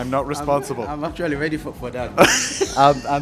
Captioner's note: laughs